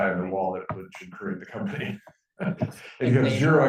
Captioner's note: chuckling